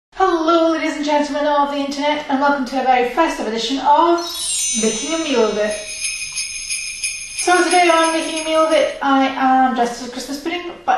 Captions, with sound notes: Hello ladies and gentlemen of the internet and welcome to a festive edition of Making A Meal of it *sleigh bells* so today on "Making A Meal of it" I am dressed as a Christmas pudding